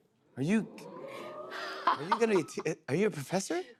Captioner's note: audience oohs